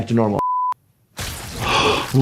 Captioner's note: plant squishing; gasping